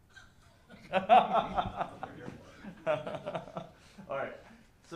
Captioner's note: laughter